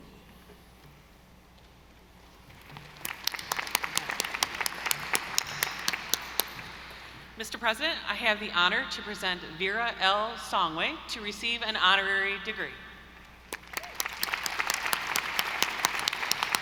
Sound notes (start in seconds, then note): 2.5 audience applauding; 13.4 audience applauding